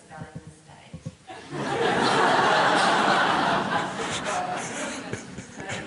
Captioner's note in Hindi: हँसी